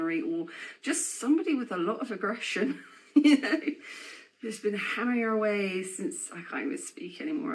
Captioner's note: laughing